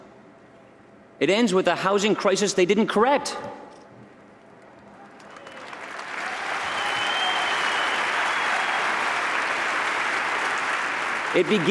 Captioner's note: applause